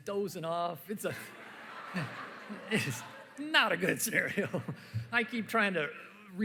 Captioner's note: laughter